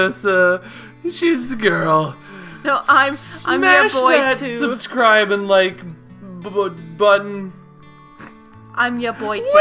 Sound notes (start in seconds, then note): 5.3 stutters; 8.2 mouth fart